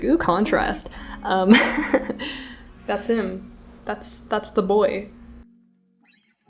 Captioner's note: laughs